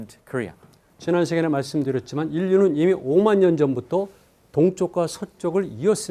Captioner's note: speaking in Korean